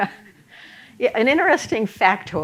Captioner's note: chuckle